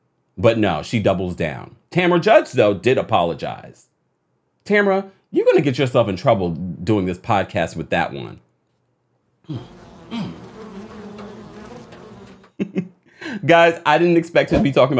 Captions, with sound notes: But no, she doubles down. Tamra Judge though, did apologize. Tamra, you're gonna get yourself in trouble doing this podcast with that one. (gnats buzzing) (laughing) Guys, I didn't expect to be talking